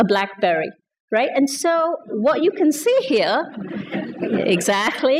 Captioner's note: laughter